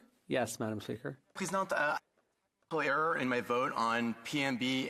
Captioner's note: speaking French